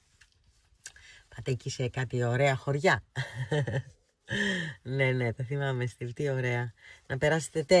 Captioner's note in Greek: γέλια